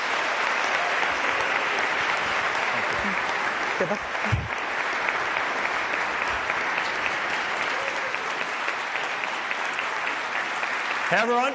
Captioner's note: applause